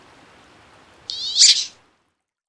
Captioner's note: high-pitched bird quack